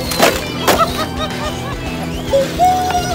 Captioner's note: laugh